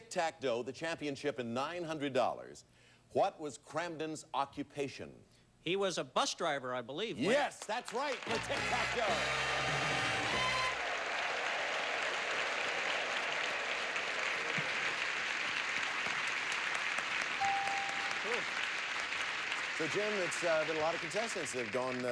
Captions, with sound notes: Jim, for Tic Tac Dough, the championship and $900, what was Kramden's occupation? He was a bus driver, I believe, Wink. Yes, that's right, for Tic Tac Dough! [audience applauding] So, Jim, it's been a little lot of contestants